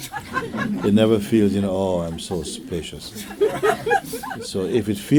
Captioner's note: laughter